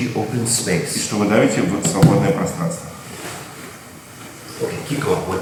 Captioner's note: speaking in a foreign language